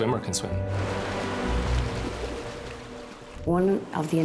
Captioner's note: water splashing